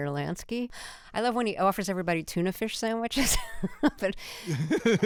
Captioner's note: laughter